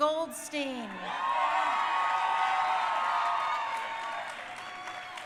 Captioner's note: crowd cheering